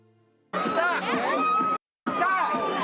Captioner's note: crowd yelling